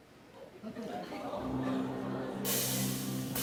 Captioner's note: audience murmurs